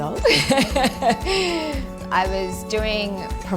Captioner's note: chuckles